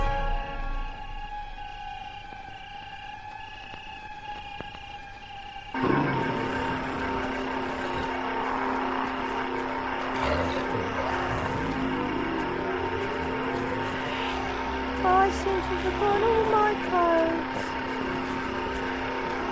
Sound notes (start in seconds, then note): 0.3 eerie music; 5.7 sinister music; 5.7 zombies growling